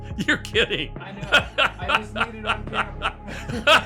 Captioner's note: laughing